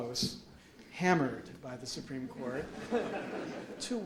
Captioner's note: audience laughs